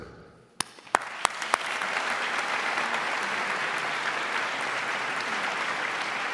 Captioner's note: audience claps